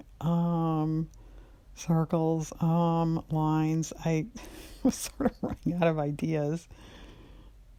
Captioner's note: laughs